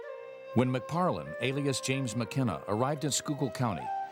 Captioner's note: voiceover